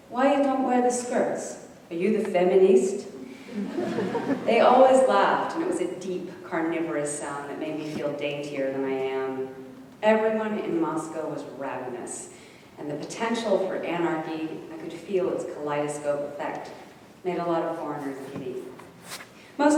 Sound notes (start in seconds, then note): 3.4 audience giggling